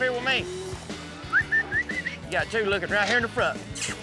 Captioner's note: whistling